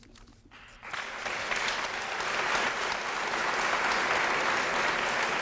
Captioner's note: applause